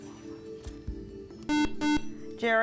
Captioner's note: buzzer